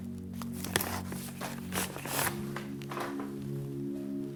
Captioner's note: sliding, crumbling